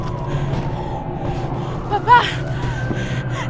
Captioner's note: sirens wailing